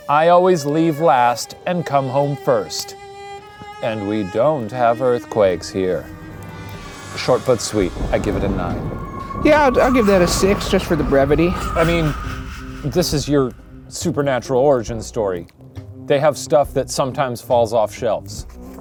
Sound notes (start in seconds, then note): none